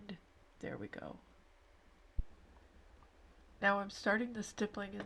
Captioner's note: silence